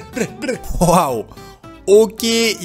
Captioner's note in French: rire